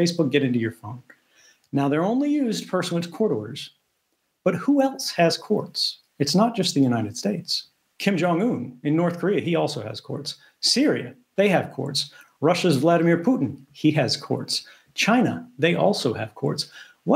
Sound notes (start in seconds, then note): none